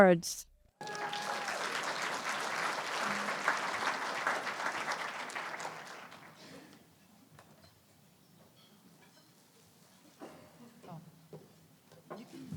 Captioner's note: applause